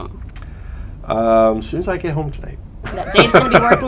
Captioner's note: laughter